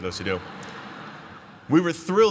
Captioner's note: laughter